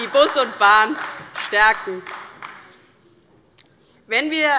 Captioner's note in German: Beifall bei Abgeordneten der SPD